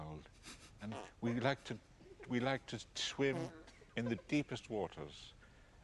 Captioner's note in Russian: Пук